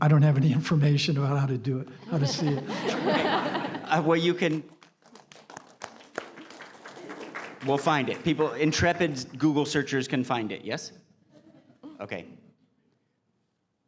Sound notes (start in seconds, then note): 1.9 laughter; 4.3 clapping